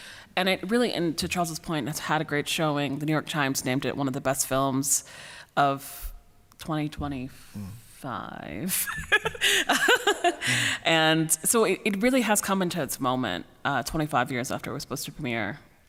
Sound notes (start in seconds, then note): 8.9 laughs